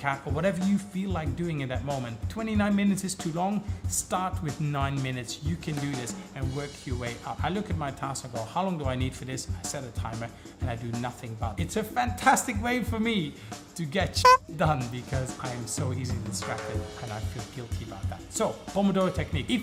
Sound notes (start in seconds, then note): 14.2 beep